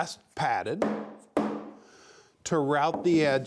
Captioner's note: hammer knocks